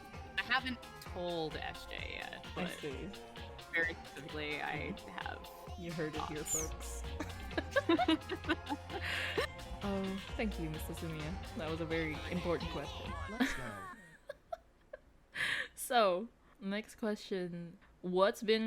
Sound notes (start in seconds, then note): 6.9 both laughing